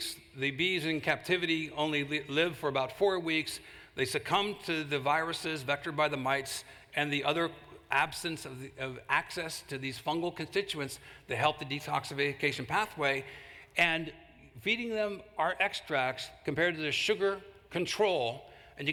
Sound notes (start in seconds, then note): none